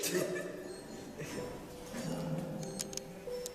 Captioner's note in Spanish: Risas burlescas